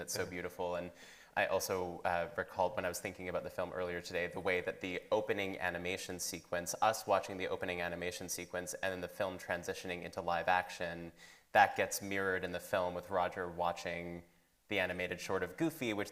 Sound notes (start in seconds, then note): none